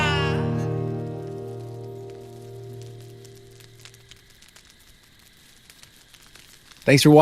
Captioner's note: fire crackling; insects chirping